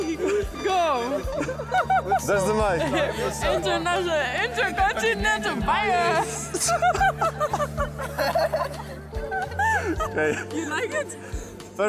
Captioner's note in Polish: śmiech